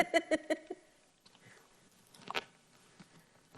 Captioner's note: laugh